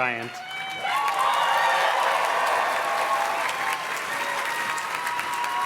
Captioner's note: audience cheers and claps